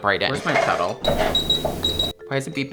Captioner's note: beeping; machine beeping